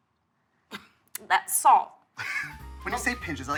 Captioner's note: coughing